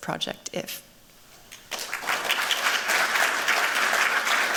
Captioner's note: applause